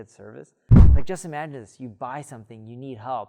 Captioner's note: air whooshing